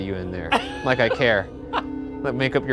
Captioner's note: laughing